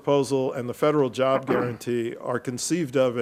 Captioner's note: participant clears throat